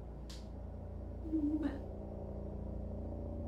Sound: sobbing

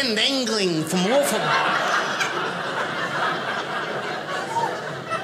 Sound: audience laughing

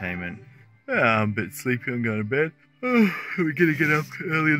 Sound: yawns

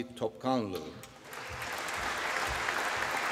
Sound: applause

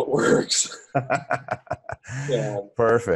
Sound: chuckling

